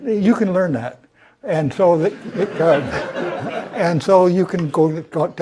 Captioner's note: laugh